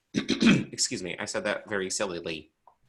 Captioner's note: clears throat